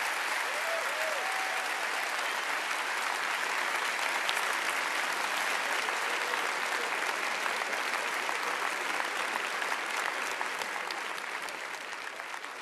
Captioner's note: applause